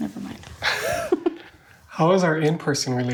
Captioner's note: laughing